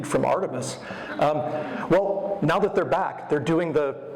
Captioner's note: audience laughter